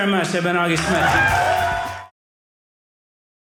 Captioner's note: audience cheering